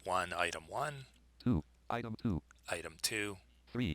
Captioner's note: synthesized speech; synthesized speech